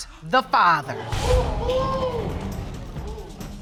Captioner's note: audience exclaim